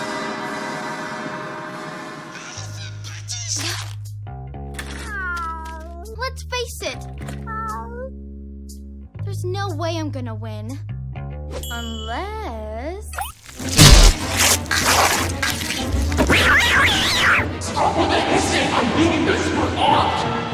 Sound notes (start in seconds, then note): 13.2 shapeshifting noises; 16.2 rightfully terrified cat yowling